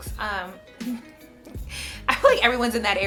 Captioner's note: laughs